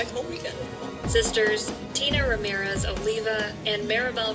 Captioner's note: on TV